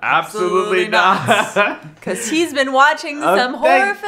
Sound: laughing

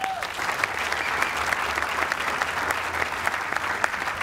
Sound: applause

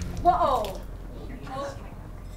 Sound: voiceover

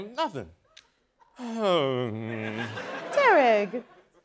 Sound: sighing

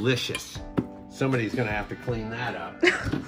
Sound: laughs

